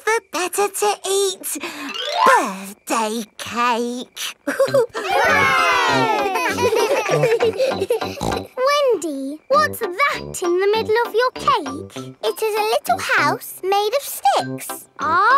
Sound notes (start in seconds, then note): 4.4 laughing; 4.4 chuckles; 6.6 snorts